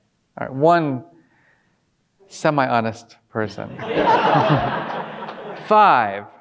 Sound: audience laughing

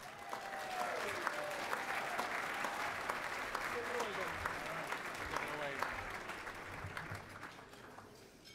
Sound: cheering and Applause

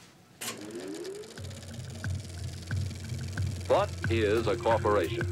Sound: film roll whirring

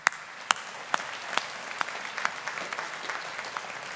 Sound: audience applauding

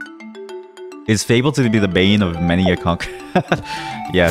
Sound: laughs

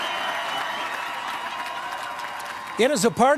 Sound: applause

